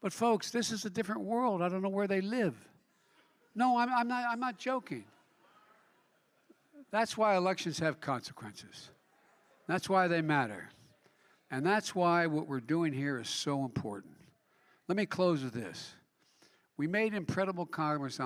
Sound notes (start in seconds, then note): 5.1 laughter